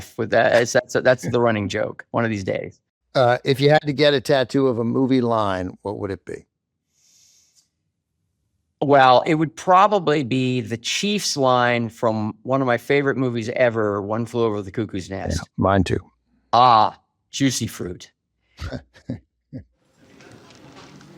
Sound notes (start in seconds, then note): 18.6 chuckles